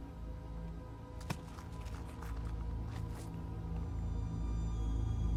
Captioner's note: Bible rustling